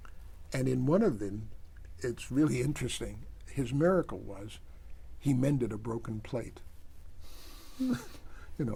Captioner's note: laughs